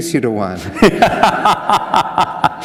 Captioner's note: laughter